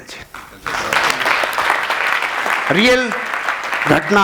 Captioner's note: round of applauses